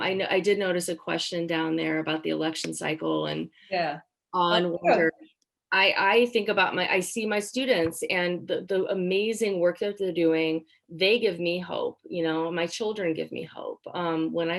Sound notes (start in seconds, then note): 3.3 speaking faintly